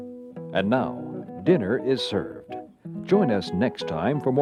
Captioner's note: voiceover